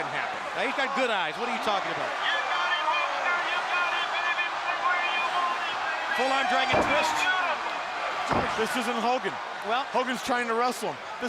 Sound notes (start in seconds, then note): 2.2 crowd chatter